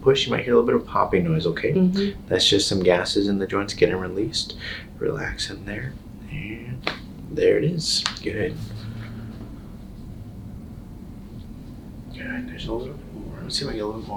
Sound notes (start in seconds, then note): 7.8 crackling